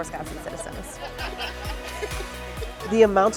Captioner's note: safety demonstration participants laughing